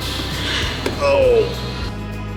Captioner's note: grunt